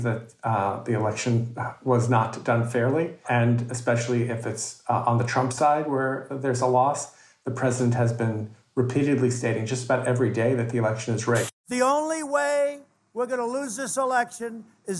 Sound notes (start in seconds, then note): 11.3 static hissing